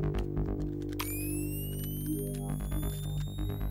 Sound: weapon powers up

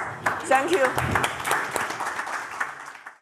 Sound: audience clapping

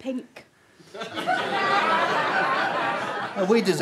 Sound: audience chuckles

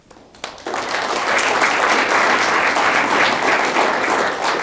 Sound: audience clapping

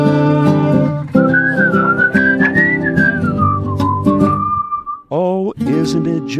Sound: whistling

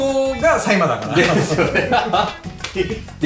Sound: laughs

